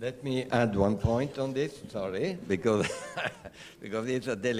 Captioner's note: laughter